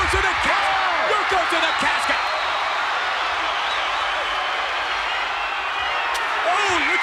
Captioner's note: audience cheers